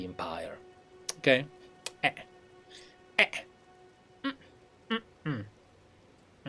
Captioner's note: italian conspiratorial sounds